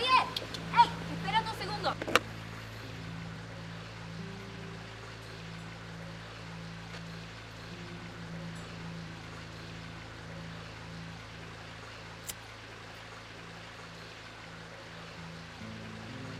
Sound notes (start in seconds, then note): 0.1 Dorothy speaking in Spanish; 12.2 lighter clicking